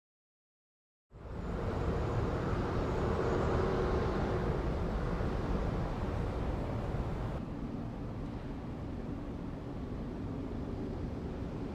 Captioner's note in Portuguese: veículos ao fundo